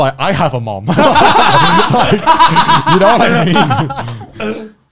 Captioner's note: laughs